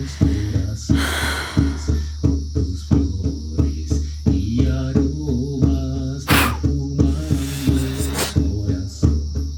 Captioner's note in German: seufzt